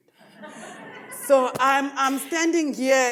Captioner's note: audience laughs